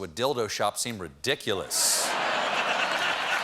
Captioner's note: laughter; applause